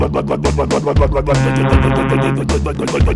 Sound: loud horn

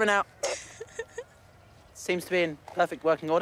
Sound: girls chuckling

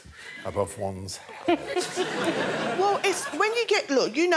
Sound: Sophie laughing

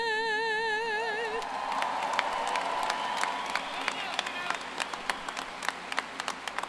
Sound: applause

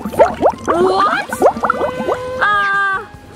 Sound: bubbles popping

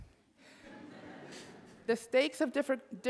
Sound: audience laughing

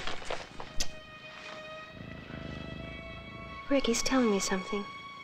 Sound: cat purring

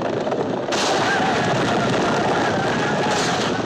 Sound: whooping

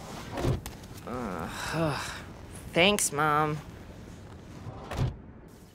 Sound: sighs

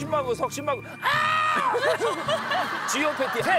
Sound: screaming

